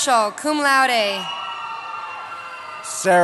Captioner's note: cheering